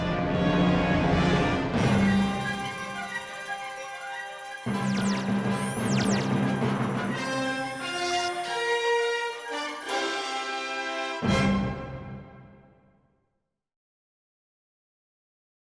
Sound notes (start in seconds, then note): 7.3 satellite bleeping; 11.5 dramatic music continues